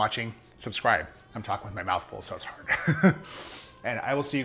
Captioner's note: laughs